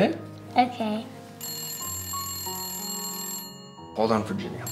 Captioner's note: phone rings